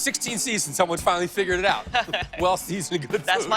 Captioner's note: laughs